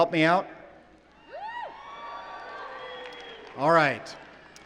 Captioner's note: cheering